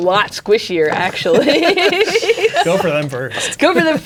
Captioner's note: laughing